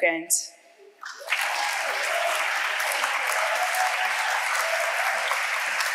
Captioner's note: audience applauding